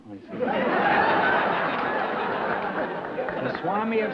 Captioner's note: laughter